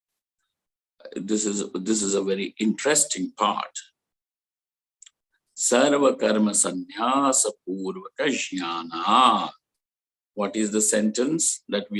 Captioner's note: sanskrit